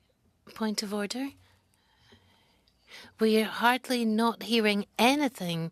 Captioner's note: speaking French